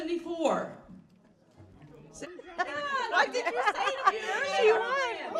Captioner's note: indistinct chatter; laughing